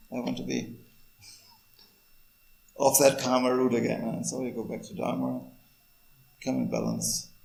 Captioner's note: laughs